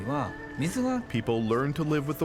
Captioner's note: speaking Japanese